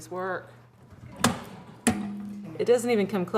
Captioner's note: thunk